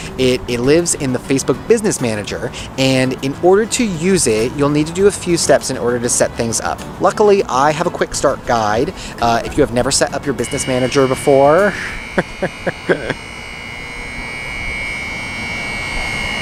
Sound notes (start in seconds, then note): 8.9 alarm buzzing; 12.1 laughs